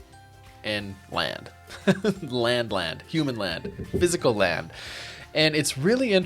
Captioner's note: laughs